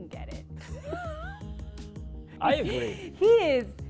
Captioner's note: laughter